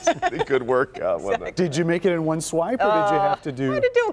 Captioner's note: laughter